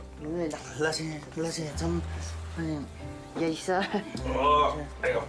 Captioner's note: speaking in Sherpa language